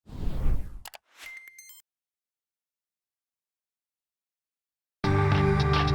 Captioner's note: logo whooshing; light beeping; upbeat music